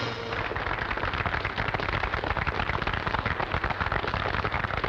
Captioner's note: audience applauding